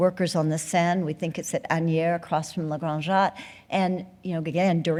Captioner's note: speaking french